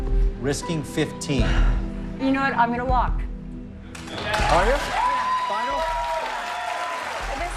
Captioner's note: sighs